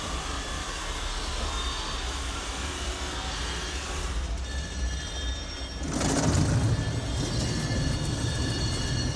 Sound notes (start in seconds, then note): 5.8 vehicle rumbling on